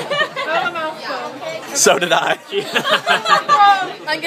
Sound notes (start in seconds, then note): 2.4 laughter